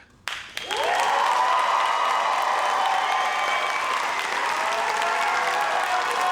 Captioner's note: audience cheers and applauds